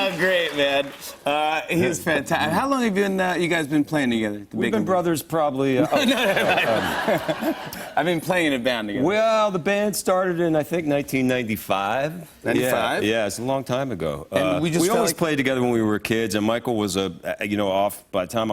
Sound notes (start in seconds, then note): 5.8 laughs